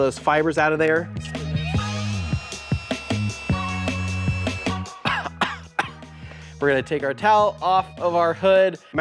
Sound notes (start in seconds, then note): 4.9 coughing